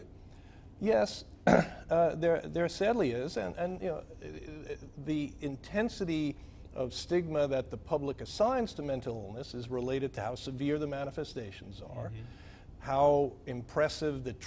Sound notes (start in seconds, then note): 1.4 clears throat